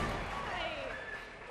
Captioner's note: cheers and applause